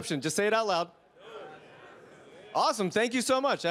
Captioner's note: participants chattering